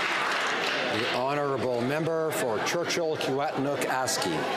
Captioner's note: some Applause